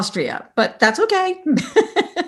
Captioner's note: laughs